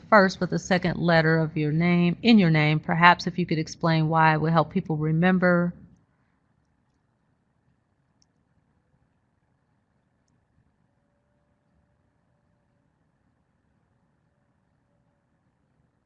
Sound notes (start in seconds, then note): 11.3 silence